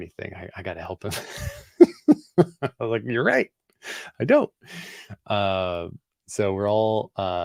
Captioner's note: laughs